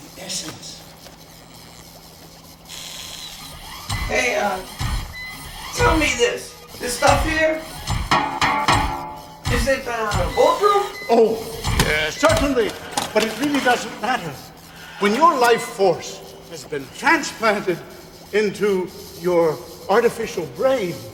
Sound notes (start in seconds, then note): 9.4 clanging